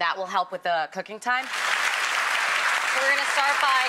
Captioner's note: audience clapping